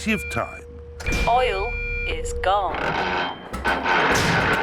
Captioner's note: creaking